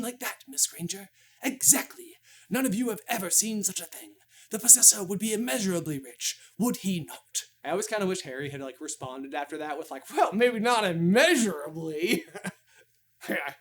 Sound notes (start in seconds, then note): 11.2 chuckles